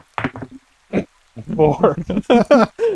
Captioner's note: chuckle; laughter